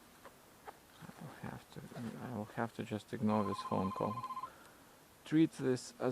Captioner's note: phone still ringing